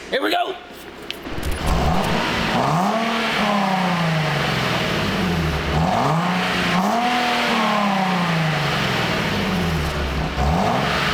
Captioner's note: engine roaring